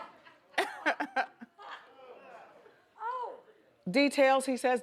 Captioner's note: co-host laughs